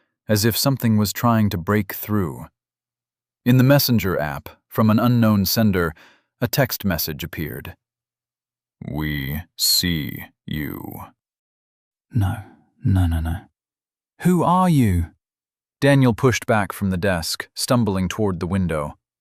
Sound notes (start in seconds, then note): 8.8 ominous voice